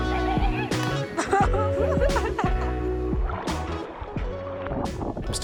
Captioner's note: laughs at Dirk